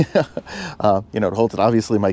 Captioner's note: laughs